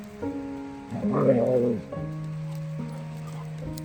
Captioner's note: dog growling